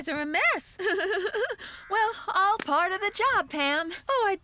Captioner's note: laughing